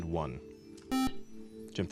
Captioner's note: beep